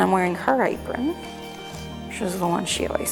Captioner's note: spoon scraping